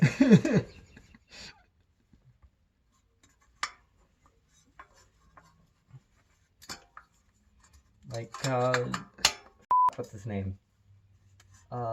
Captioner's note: laughter